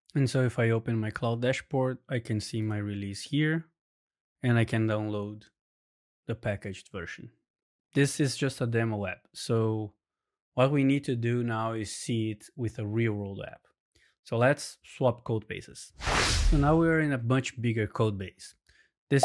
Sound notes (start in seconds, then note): 16.0 screen whooshes